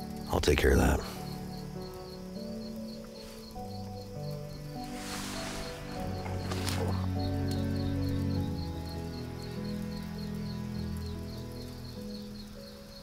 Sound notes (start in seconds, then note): 3.6 crickets chirp; 3.6 somber music continues